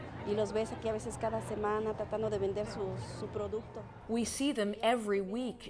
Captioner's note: speaking Spanish